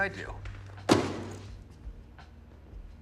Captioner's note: thud